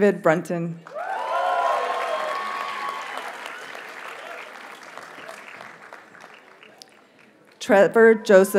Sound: audience cheers and applauds

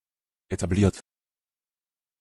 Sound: fast Pronunciation

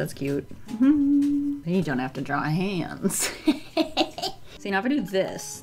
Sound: evil laugh

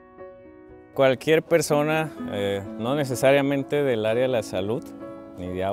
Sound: speaking in Spanish

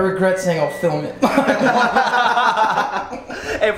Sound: laughing

